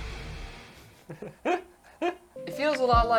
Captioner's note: laughter